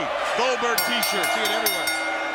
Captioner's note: bell rings